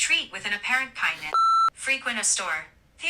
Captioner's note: beep